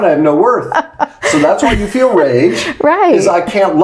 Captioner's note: laughs